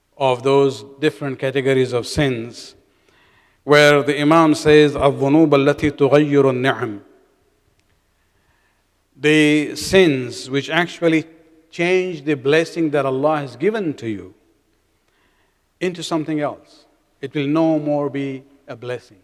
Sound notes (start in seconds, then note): 5.8 arabic